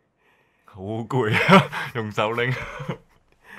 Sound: laughter

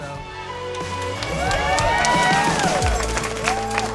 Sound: crowd cheers

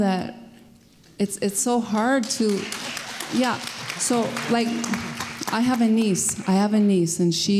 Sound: applause

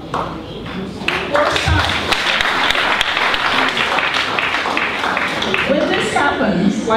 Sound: applause

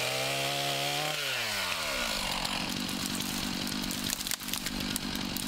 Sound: chainsaw whirring

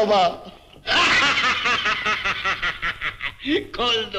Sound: laughing

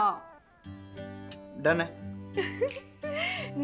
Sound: giggling

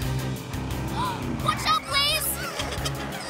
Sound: gasps

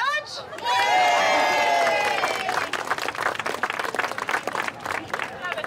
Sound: crowd cheering and clapping

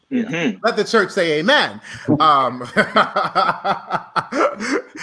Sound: laughs

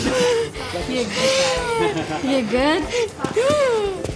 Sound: Milo sighing

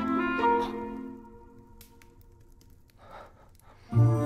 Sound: silence; holiday themed music

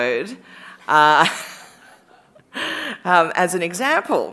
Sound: laughter

